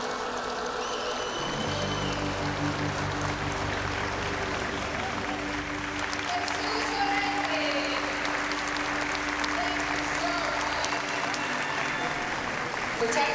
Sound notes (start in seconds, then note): 1.3 cheers and applause